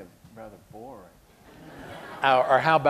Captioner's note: laughter